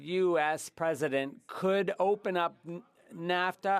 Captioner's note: speaking French